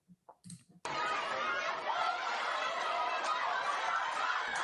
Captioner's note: crowd chanting